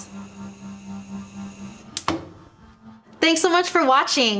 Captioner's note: gas stove switched off